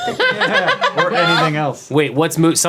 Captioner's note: everyone laughing